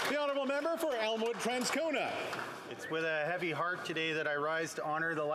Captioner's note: applause